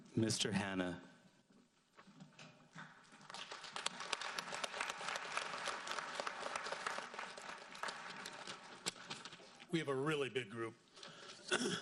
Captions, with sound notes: Mr. Hanna. (audience applauds) - We have a really big group.